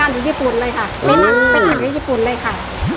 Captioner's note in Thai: ร้องตกใจ